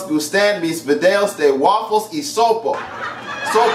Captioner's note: laughter